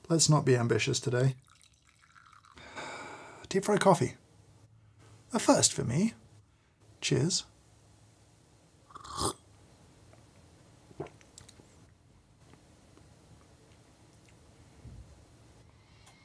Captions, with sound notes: Let's not be ambitious today. (sighs) Deep fried coffee, a first for me. Cheers (slurps)